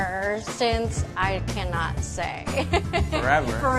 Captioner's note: laughs